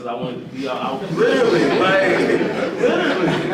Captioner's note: audience laughing